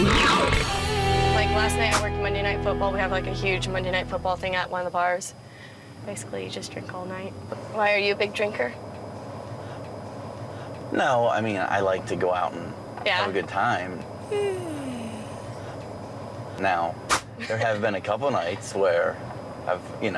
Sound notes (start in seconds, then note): 14.2 yawning